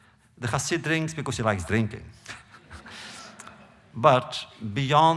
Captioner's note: laughter